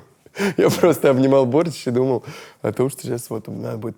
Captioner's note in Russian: смеясь